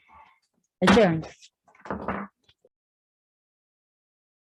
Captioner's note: gavel bangs